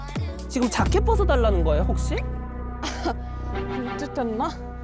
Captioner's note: serious tone